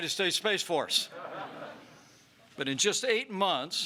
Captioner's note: laughter